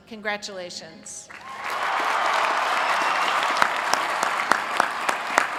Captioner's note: applause